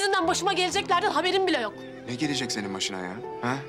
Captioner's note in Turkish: none